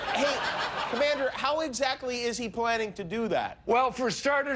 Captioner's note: laughter